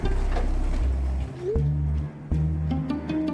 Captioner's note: gentle music; phone chiming; gentle music